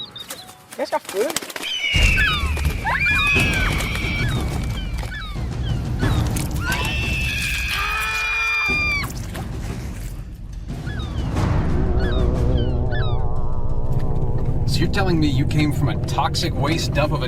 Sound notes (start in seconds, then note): 1.4 wings flapping; 2.3 gulls squawking; 3.2 Haley and screaming; 8.1 Cody and Haley screaming; 10.7 gulls squawking